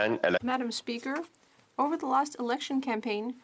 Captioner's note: speaking French